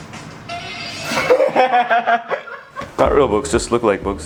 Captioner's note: laughs